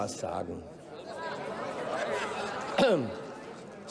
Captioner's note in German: Heiterkeit und Beifall bei Abgeordneten der CDU/CSU